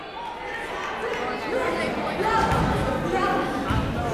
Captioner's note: chattering